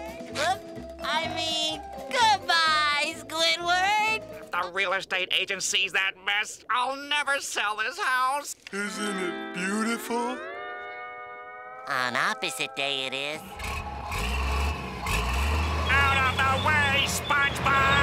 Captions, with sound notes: Oop, I mean goodbye, Squidward! If the real estate agency sees that mess, I'll never sell this house. Isn't it beautiful. On Opposite Day it is. [motor running] Out of the way, SpongeBob!